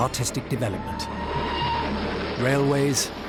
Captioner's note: train whistle blares